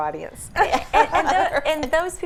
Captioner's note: ladies laughing